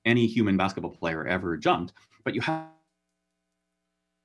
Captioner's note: speaks faintly